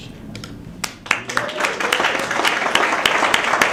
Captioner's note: applause